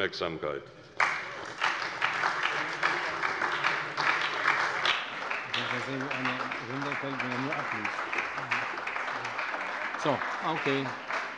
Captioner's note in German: Anhaltender Beifall bei der SPD